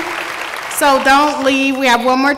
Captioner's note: applause